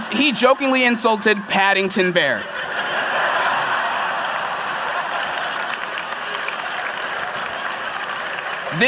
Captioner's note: laughter; applause